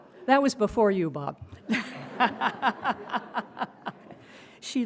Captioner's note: crowd laughing; laughs